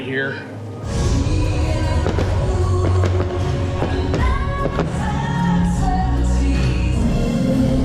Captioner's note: fireworks popping